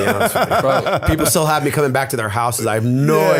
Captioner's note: laughter